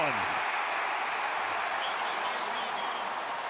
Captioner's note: crowd cheering